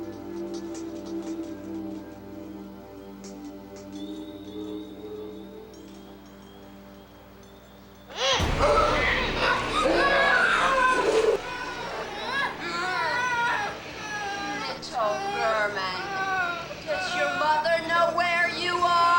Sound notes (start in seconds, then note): 9.4 child grunting